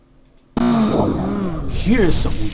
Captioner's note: digital whoosh and moan